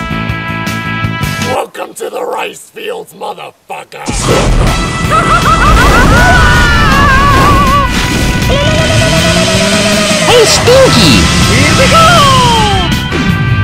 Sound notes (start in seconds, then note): 5.9 screaming; 8.8 yelling like maniac